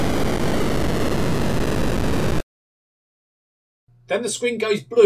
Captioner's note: boom